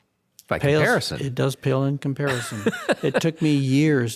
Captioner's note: laughs